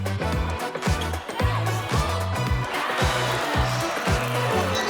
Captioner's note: audience cheers